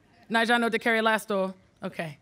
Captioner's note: speaking foreign language